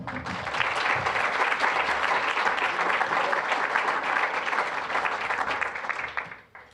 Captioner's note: applause